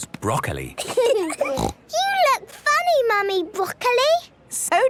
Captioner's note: laughing, snort